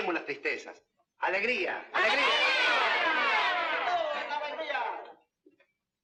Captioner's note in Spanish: Exclamaciones generales